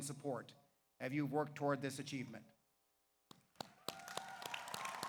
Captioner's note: claps; audience applauds; audience cheers